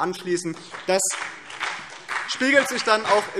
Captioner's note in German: Beifall BÜNDNIS 90/DIE GRÜNEN und vereinzelt CDU